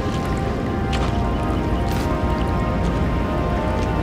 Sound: footsteps

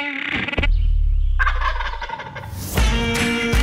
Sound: turkey gobbles; upbeat country music

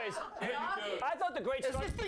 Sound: laughter

